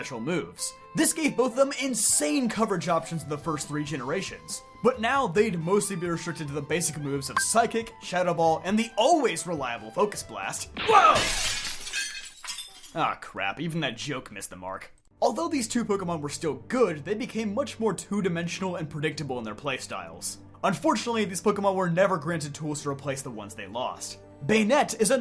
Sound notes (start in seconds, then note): 10.8 crash